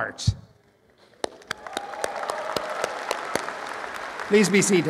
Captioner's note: applause